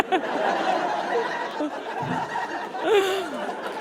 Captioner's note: audience laughs uproariously; stifles giggling